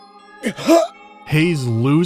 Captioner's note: cough